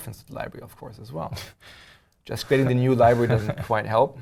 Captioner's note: laugh